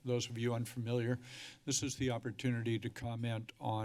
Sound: speech breath

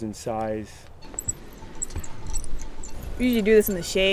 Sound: metal clinking

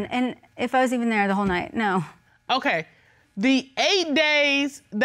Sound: none

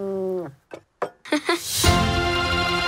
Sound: chuckles

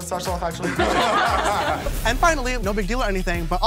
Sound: laughing

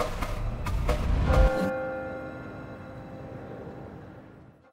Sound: bell rings

